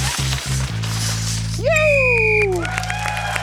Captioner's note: blows whistle; cheering, applause